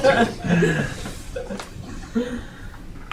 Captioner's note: laughing